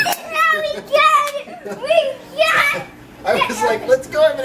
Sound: kids cheering; laughing

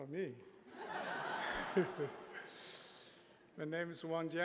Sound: laughter

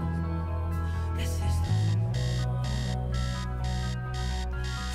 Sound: alarm buzzing

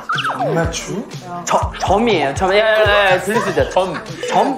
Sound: whispering

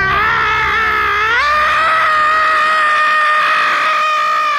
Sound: screaming

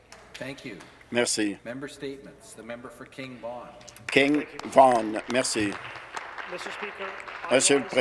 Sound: some Applause

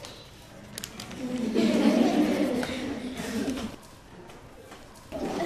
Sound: laughter

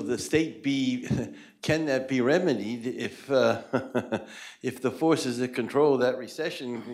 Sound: laughter

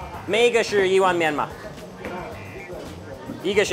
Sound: speaks in Chinese

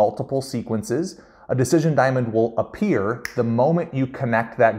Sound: fingers snap

